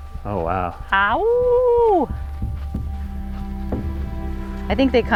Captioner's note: mimicking a wolf howling